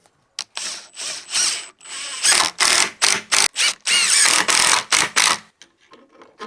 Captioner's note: drilling